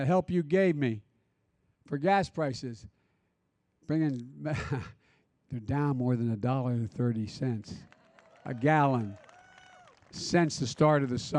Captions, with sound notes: and the help you gave me for gas prices, bringing -- (laughs) -- they're down more than a dollar and 30 cents a gallon since the start of the summer.